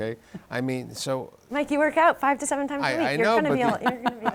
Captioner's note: laughs